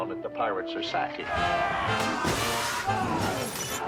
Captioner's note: indistinct shouting